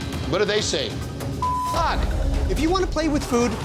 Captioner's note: beep